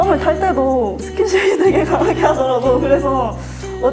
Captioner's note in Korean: 멈출 수 없는 웃음